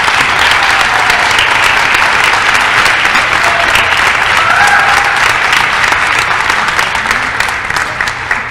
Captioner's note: applause